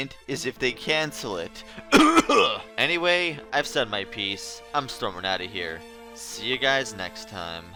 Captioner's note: cough